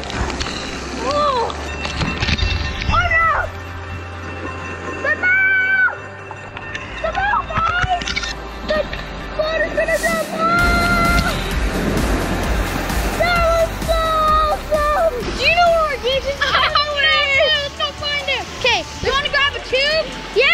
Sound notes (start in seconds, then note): 4.1 screaming